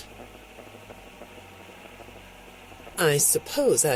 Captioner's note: dead silence